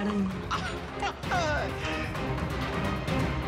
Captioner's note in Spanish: Risas de Martín